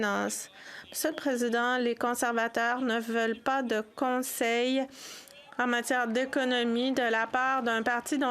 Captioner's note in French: voix de l'interprète